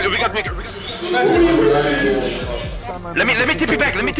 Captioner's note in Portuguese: Ruídos de empolgação